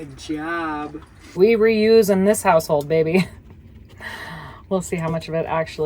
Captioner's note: chuckles